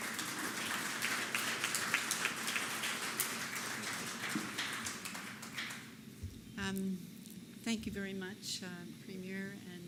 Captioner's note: applause